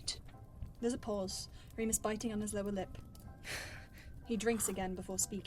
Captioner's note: sad laugh